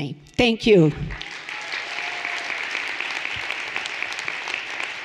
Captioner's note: everyone applauding